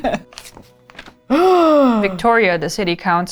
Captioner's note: laughs; gasp